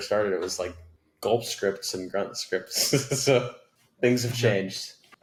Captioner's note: laughing